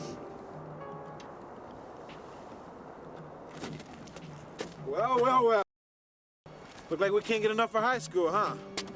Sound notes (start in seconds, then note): 0.1 tense music; 3.8 footsteps crunching